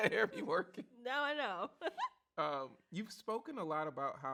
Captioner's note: chuckles